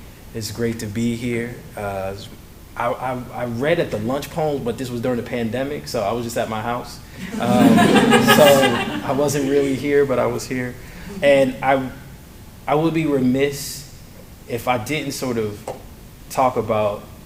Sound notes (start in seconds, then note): 7.2 laughter